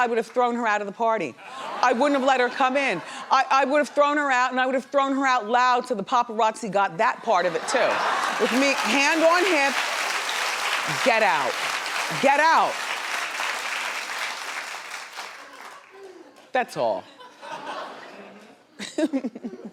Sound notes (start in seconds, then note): 11.9 audience clapping; 17.9 laughs